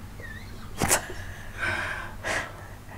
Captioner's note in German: Aus dem Off; lacht